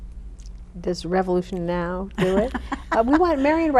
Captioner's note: laughs